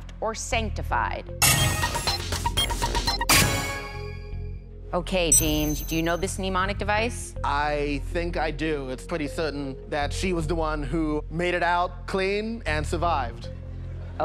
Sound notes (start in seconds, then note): 1.4 chime